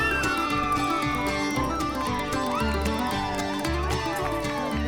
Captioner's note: guests cheering; upbeat folk music